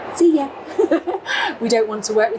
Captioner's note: both chuckling